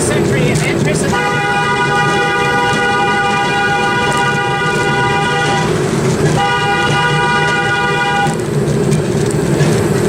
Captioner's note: motorcar Horn Intesifies